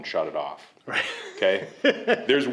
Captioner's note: laughing